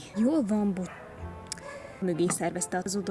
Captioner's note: dogs